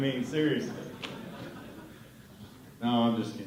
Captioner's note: laughter